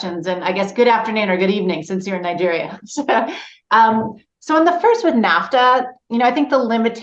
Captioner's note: laughs